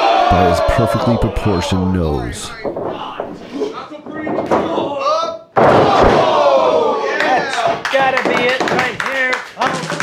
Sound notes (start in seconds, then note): 5.8 audience cheering